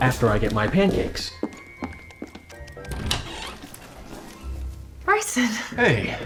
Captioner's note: footsteps, door opening